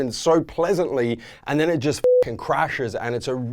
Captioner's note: beep